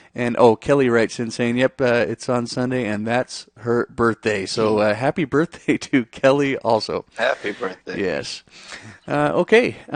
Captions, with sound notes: And, oh, Kelly writes in saying, yep, it's on Sunday and that's her birthday. So happy birthday (chuckles) to Kelly also. Happy birthday. Yes.